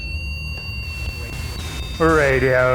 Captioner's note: REM-POD beeps